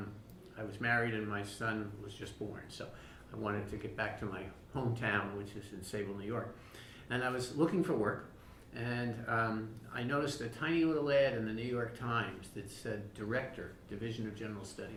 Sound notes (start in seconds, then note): none